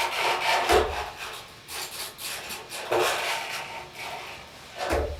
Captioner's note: none